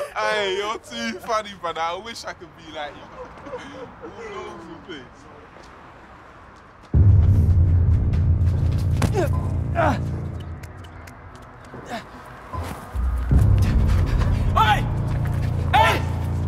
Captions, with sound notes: Ay, you're too funny brother, I wish I could be like you. (chatter) (ominous music) Oi. Hey.